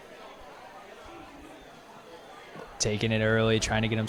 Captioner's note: indistinct chatter